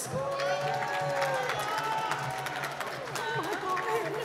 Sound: applause

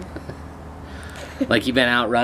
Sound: chuckling

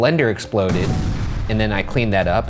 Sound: explosion

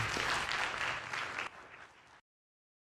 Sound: applause

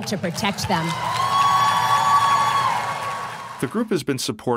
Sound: crowd cheering

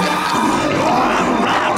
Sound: growling

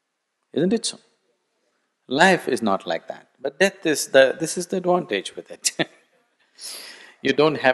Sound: laughs

